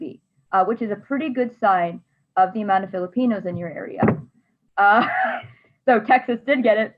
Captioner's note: laughs